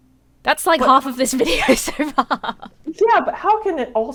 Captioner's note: laughs